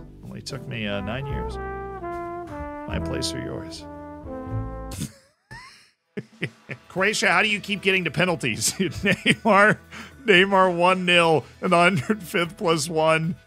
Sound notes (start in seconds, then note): 5.0 wheezes; 8.6 chuckles